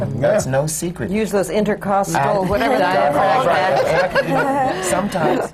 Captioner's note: laughter